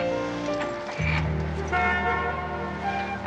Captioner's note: jazzy theme playing; horn honks